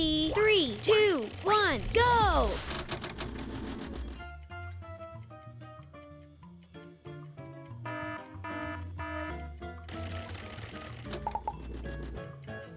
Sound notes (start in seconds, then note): 4.9 fast paced game music; 8.0 alarm blaring